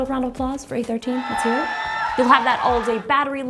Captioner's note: cheering